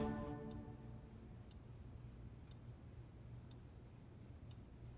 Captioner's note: ticking